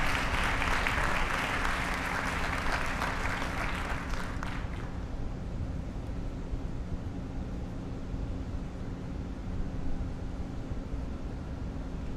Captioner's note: applause